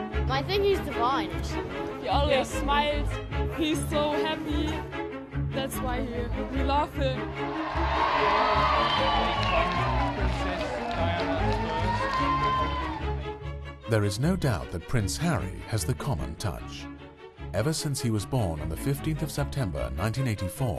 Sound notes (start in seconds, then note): 7.3 crowd cheering; 12.6 voiceover